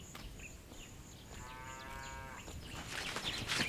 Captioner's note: Beuglement d’une vache